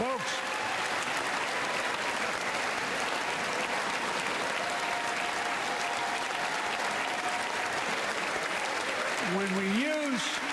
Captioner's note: applause